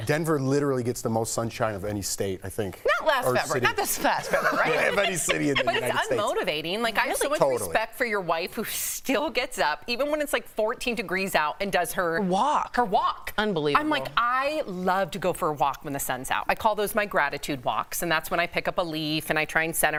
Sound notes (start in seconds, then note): 7.0 laughter